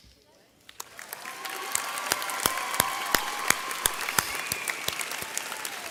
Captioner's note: audience cheering